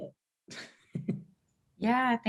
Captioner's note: chuckles